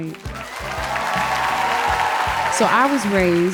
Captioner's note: audience applauding; audience cheering